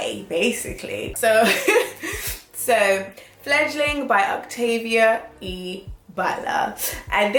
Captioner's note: laughs